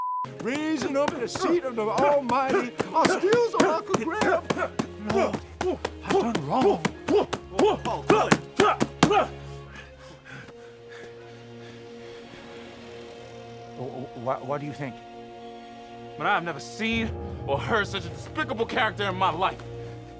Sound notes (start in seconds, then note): 2.0 loud grunting; 7.5 grunting; 9.4 breathing heavily